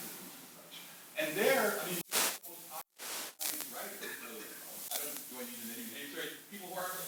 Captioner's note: static